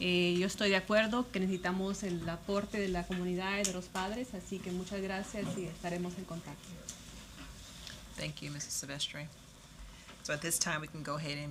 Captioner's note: speaking spanish